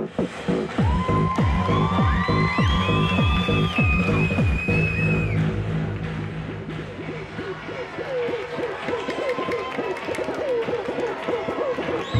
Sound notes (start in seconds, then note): 0.1 techno; 4.3 cheering